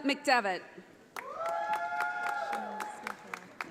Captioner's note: audience applauding